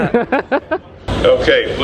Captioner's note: laughing